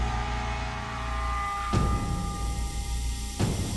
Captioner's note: gas hissing